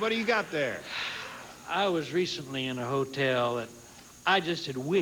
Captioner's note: sighs